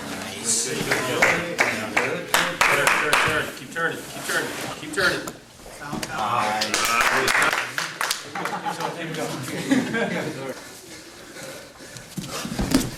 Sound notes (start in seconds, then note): 2.2 audience applauding; 8.4 audience applauding; 9.8 men laughing